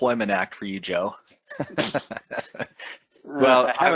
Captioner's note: both laugh